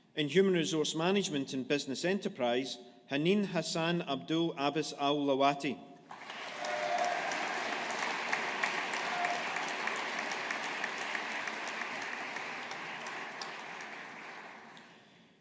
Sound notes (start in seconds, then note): 6.1 audience applauding